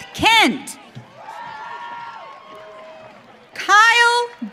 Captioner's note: audience cheering